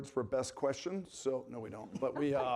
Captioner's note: panelists laughing